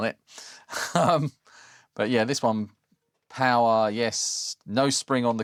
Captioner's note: laughs